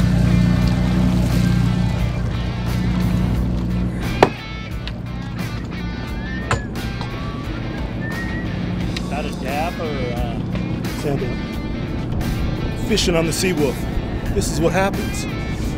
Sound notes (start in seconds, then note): 0.6 water splashes; 7.1 white bandana fisher whistles